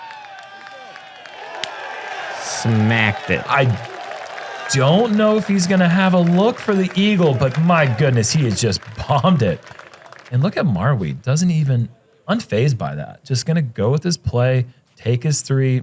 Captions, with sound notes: [applause] Smacked it. I don't know if he's going to have a look for the eagle, but my goodness, he has just bombed it, and look at Marwede. Doesn't even-- unfazed by that. Just going to go with his play, take his three,